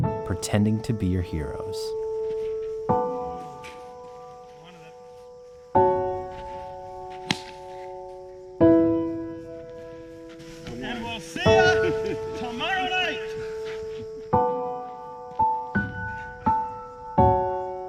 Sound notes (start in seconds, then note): 2.7 slow contemplative music; 7.2 bat smacking; 14.1 slow contemplative music